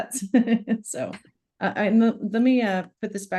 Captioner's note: laughs